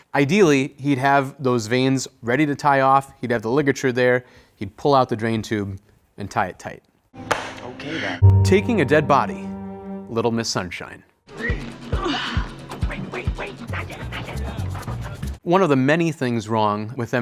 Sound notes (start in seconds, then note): 7.3 claps